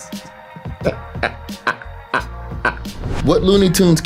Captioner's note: laughs